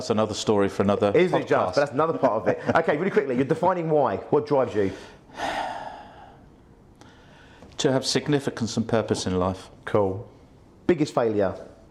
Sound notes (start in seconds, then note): 5.3 sighs